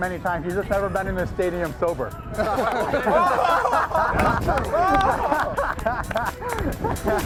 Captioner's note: laughing